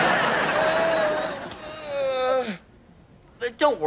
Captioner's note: audience laughter; painful cries